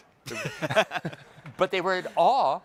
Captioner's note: hosts laughing